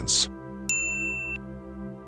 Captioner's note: com Chime